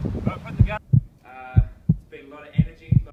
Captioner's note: heartbeating